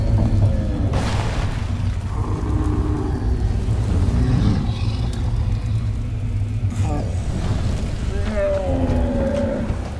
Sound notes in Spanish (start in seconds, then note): 2.0 Gemidos; 8.2 Gimidos